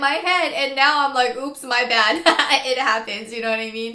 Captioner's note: laughs